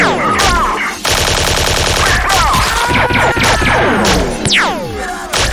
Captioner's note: gunfire